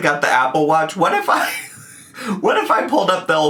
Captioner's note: laughs